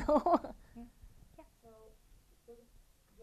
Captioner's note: laughing